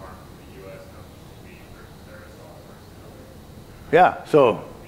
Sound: faintly speaking

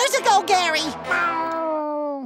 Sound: meowing

